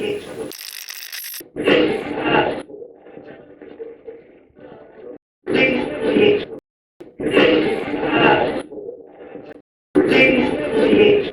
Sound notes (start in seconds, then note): 0.5 radio scratching; 7.5 radio voices